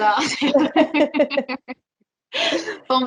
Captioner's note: laughter